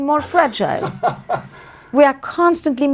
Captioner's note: laughs